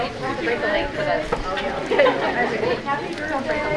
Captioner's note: crowd chatters